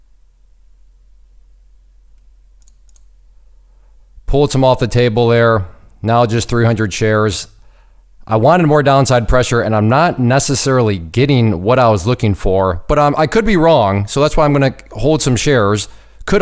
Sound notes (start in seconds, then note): 2.6 mouse clicking